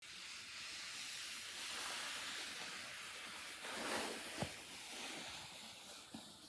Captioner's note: rustling fabric